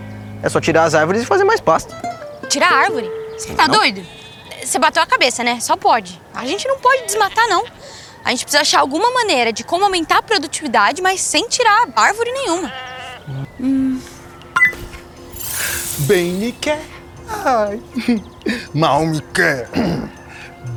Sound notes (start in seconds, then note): 14.4 click